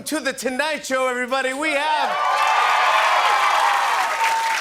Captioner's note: cheers and applause